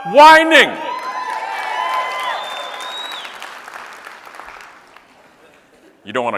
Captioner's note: audience cheering and clapping